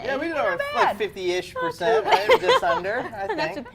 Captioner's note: laughs